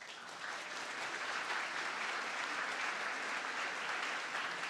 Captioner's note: audience applauding